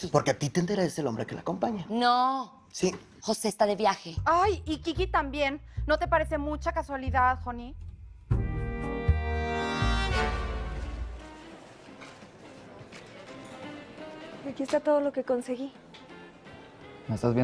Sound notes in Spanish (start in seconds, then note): 11.8 Bullicio